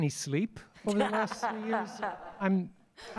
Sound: laughter

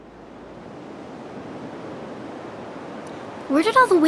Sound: waves breaking

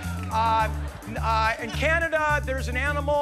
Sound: laughter

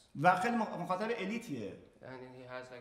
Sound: speaking in farsi

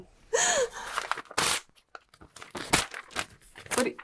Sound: shreds paper

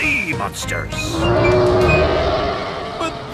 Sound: roaring

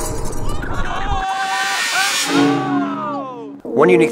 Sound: clanking; yelling

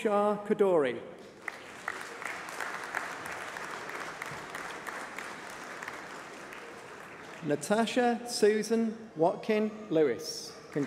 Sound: applause

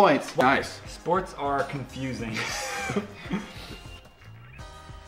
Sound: wheeze

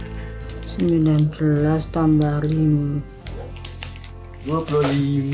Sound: speaking Javanese

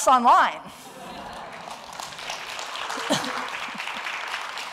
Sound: applause

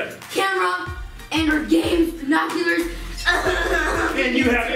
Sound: coughing

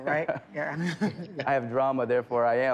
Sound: chuckles

